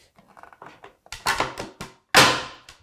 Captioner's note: wood on desk scraping; wood on desk creaking; wood on desk banging